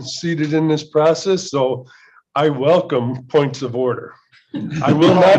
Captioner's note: laughter